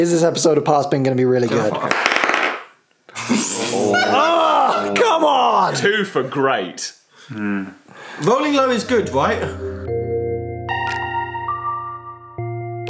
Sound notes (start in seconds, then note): 3.1 laughing; 10.3 soft music